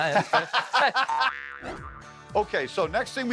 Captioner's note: both laughing